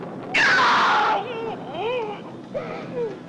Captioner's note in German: Insekten zirpen